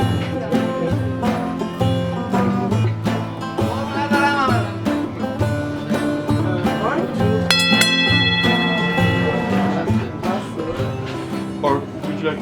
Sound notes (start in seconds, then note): 7.5 bell ringing